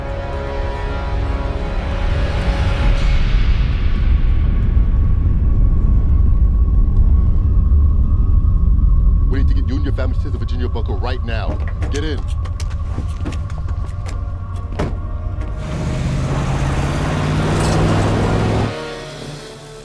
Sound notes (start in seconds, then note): 4.5 rumble approaching